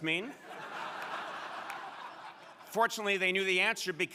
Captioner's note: crowd laughing